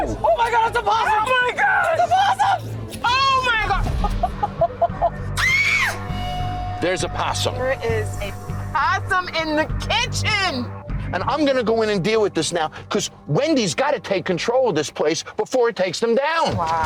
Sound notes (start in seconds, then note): 3.8 laughs; 5.3 screams